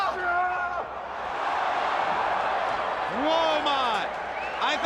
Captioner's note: crowd cheering